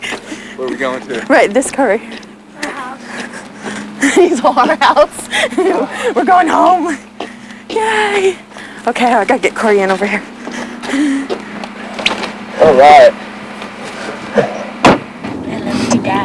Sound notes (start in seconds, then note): 5.4 laughter